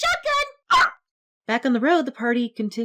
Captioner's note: pained yelp